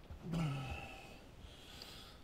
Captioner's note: groan